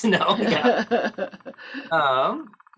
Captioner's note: laughter